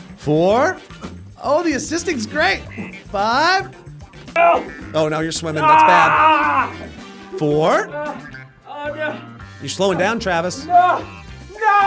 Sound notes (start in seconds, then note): 6.1 shouting